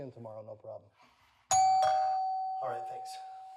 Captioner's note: doorbell rings